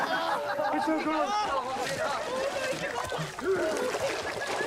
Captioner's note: Jackass members laughing